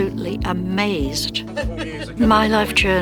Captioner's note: laughing